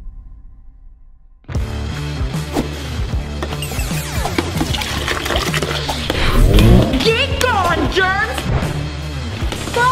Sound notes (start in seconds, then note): 1.6 rocking music playing; 4.2 liquid pouring